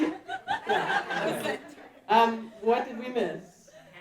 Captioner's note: audience laughing